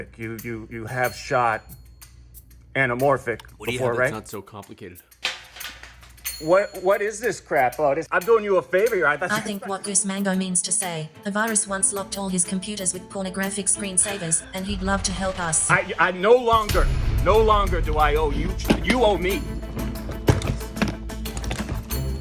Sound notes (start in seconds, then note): 5.0 clattering; 20.0 case clicking